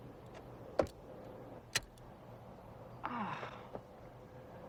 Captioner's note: groaning